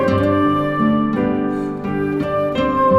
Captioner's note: inhale